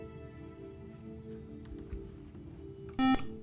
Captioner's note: buzzer